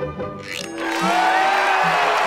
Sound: cheering

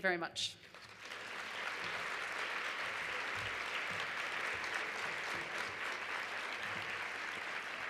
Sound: applause

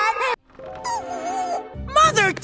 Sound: whimper

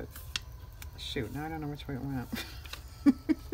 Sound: laughs

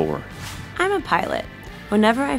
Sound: voiceover

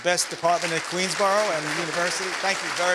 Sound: audience laughing

